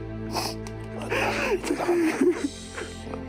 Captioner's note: moses sobbing loudly; sniffling